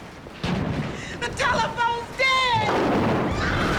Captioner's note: shrieks; screams